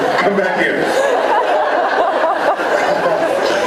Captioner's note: laughs